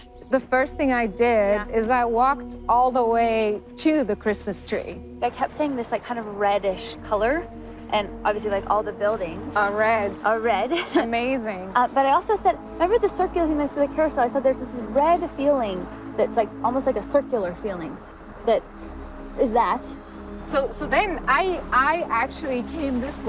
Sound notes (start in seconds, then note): 10.7 laughs